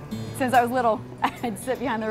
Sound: laughter

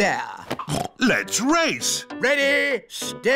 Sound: snorts

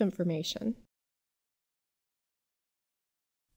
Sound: pause

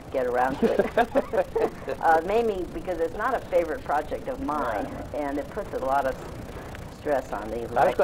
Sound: both laugh

